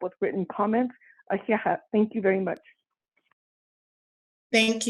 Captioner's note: speaks in native language